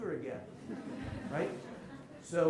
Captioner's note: laughter